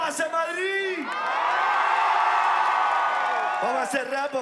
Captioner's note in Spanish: gritan